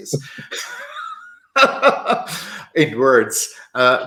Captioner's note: laughter